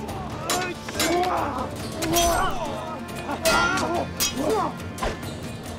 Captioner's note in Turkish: Dövüş sesleri